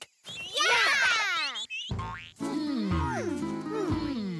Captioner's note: "hmm" as they think